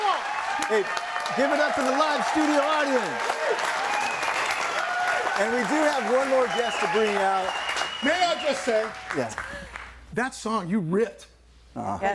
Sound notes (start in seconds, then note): 3.4 audience applauding; 3.4 audience laughing